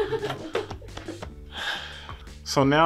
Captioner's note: woman laughing; hand tapping; sighs